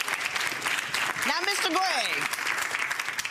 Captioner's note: applause